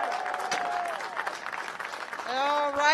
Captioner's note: cheers and applause